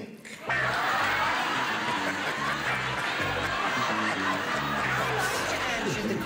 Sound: laughter

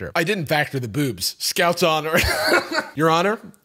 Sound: laughs

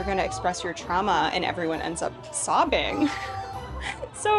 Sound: laughs

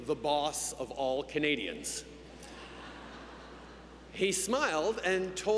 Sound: laughter

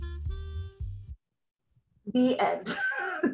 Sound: chuckles

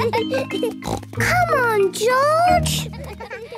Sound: laughs; snort

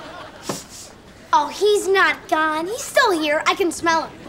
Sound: sniffs

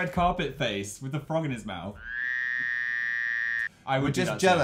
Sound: frog noise

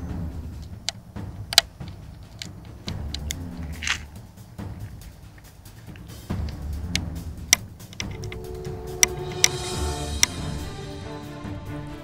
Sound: giant hornet is biting

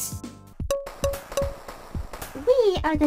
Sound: tap tap tap

